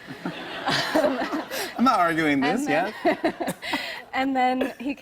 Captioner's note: laughter; laughter